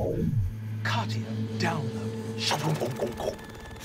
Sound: chimes beaming; mimics sound distortion

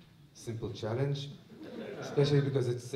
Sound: laughter

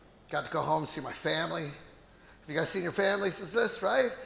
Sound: none

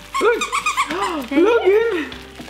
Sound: squeaks

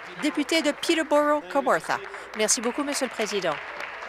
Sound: applause

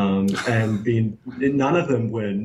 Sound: laughs

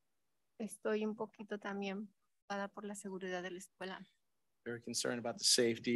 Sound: speaks in Spanish

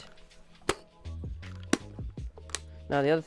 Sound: sound of camera back closing

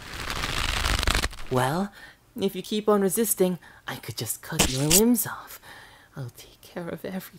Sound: rope tightens; schunk

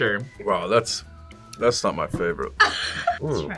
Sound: laughs

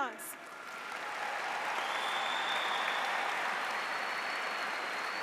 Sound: audience applauds

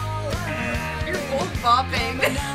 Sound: buzzer sounds

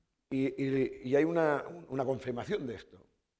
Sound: speaking spanish

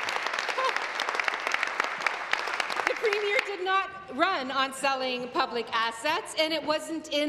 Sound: applause

